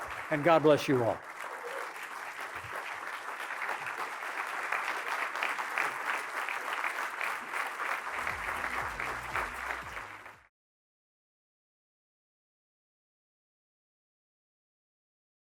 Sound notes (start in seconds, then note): 1.4 applause